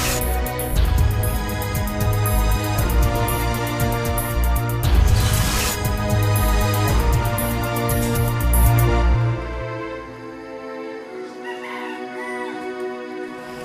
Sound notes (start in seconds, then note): 11.2 rooster crows